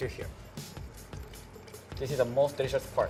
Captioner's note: pouring juice